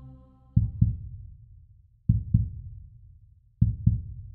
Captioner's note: heart beating